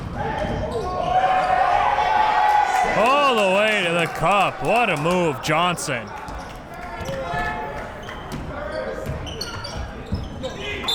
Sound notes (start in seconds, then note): 1.0 crowd cheering